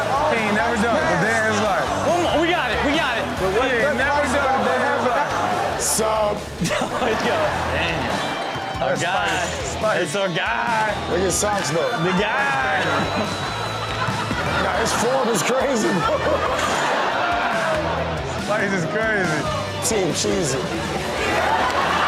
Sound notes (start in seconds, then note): 6.6 everyone laughs; 14.1 audience laughs; 16.6 audience laughs